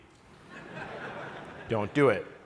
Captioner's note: laughter